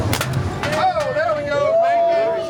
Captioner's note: gunshot